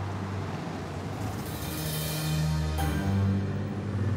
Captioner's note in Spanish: Ruido del auto